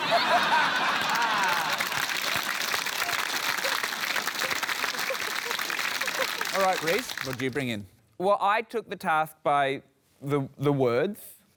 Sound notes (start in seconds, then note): 0.0 laughter; 2.3 applause